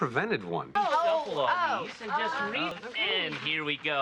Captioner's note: gentle arguing and going Ohs